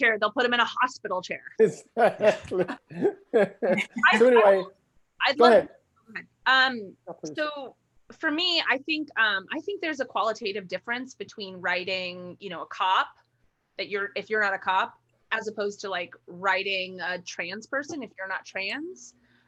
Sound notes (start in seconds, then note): 1.6 laughs